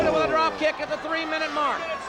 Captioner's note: exclaims